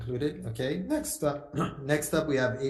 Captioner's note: clears throat